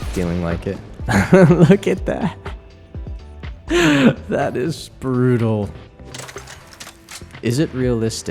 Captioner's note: laughs